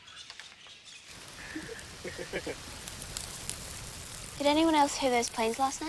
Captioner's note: kevin and corrie laugh